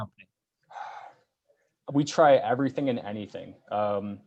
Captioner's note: sighs